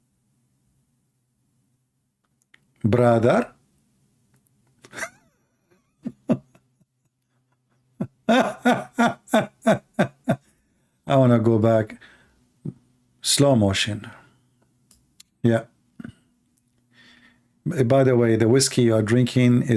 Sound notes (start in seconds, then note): 7.8 Ketawa